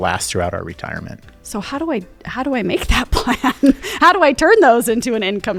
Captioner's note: laughing